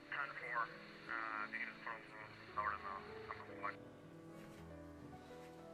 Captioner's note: radio chattering continues